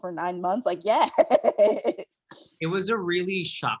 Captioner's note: laughing